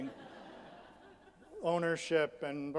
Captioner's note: audience laughs